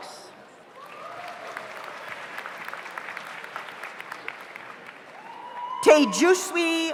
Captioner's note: audience cheers; audience applauds